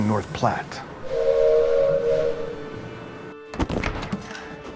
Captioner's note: train whistle